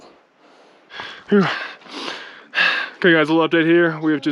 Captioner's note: heavy breathing